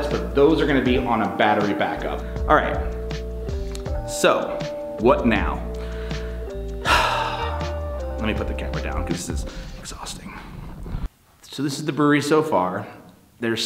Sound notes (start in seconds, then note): 5.7 sighs